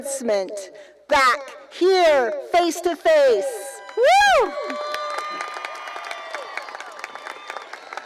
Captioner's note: cheering